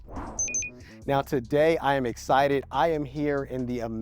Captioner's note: bell dings